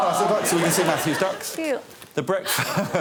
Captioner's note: multiple oohs and aahs